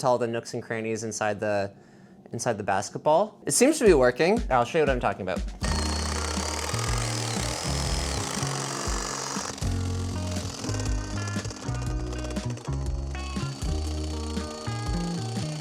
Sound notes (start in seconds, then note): 5.4 upbeat music continues; 5.6 saw whirs